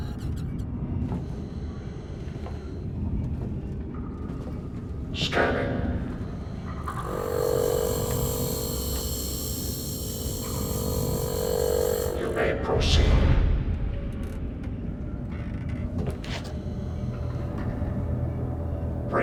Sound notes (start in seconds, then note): 5.9 buzz